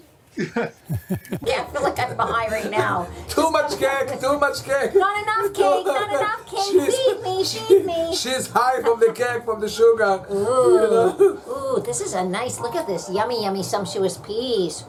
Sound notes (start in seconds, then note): 0.3 father and broadcaster laugh; 2.0 playfully; 4.1 giggling